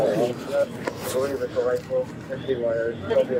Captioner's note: radio chatter